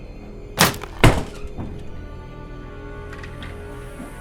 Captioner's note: door slams open